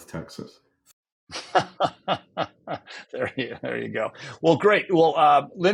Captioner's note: laughs